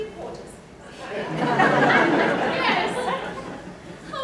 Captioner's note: laughter